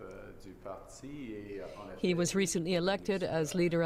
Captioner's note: speaking French